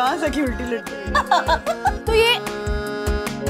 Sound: laughing

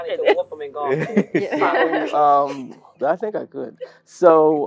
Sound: laugh

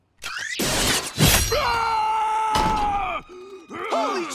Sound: screaming

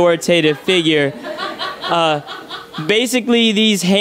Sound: audience laughs

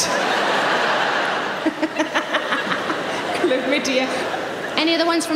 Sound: laughs

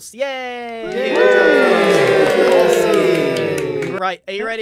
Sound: collective applause

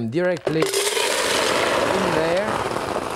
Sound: mussels clatter

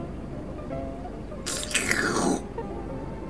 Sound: sip

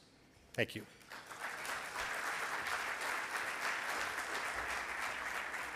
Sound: audience applauds

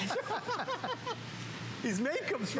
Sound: laughter

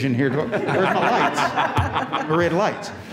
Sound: all laugh

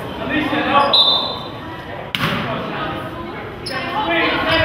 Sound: whistle blows

